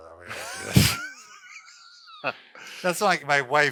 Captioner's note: laughing